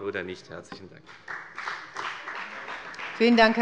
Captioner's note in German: Beifall bei der FDP